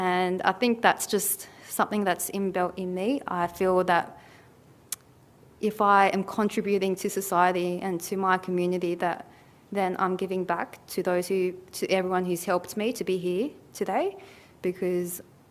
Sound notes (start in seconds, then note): none